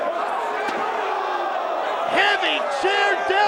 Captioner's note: chair clunks